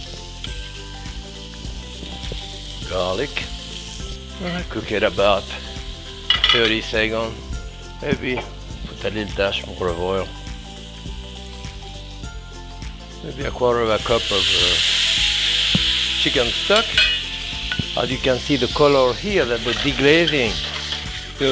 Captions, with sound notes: (pan sizzling) Garlic. I cook it about 30 seconds. Maybe put a little dash olive oil. Maybe a quarter of a cup of chicken stock. (thumping) As you can see the color here, that we're deglazing